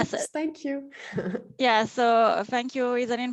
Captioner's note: laughs